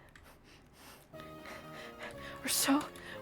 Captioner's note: heavier breathing